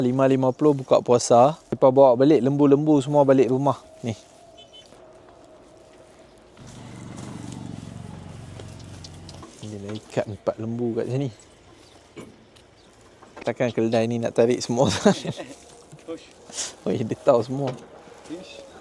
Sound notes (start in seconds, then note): 15.6 laugh